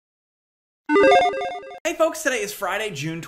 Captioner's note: logo beeping